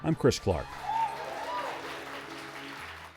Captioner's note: audience claps and cheers